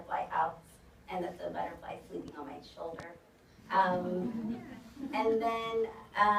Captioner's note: audience "oohs"